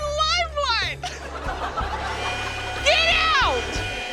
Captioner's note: laughter